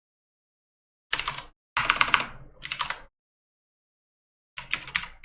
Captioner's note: keyboard typing